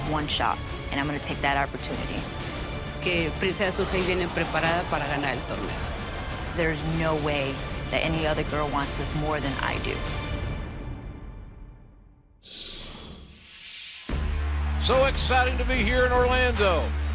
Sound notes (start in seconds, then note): 4.6 speaking spanish